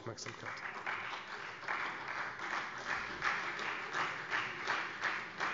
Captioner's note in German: Beifall Freie Demokraten